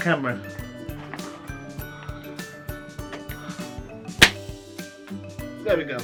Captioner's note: second party popper bangs